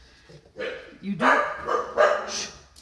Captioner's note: dog barking